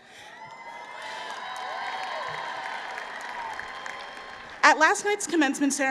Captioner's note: applause